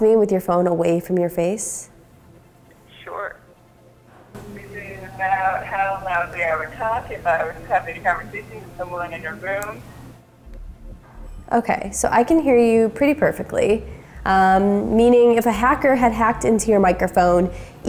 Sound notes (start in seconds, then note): 4.4 microphone static